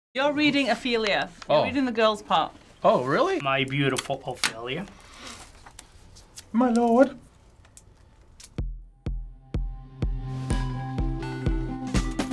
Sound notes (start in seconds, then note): 6.4 in high pitch